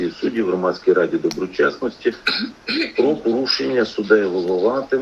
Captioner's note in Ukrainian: прочищення горла